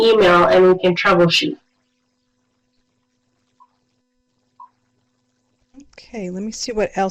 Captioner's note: no sound - waiting for questions/comments